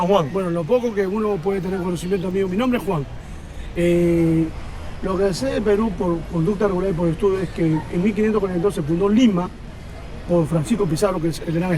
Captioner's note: conversation in Spanish